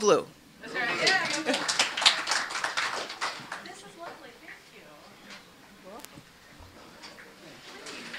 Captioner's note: applause